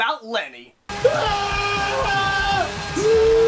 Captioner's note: screaming